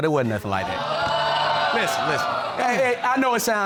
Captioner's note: audience groaning